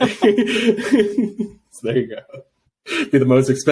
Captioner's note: laughing